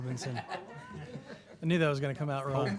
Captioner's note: laughter